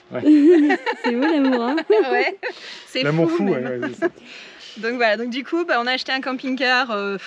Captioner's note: laughs